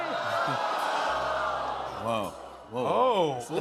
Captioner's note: audience awws